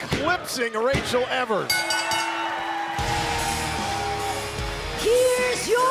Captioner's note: bell ringing